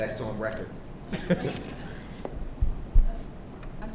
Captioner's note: man laughs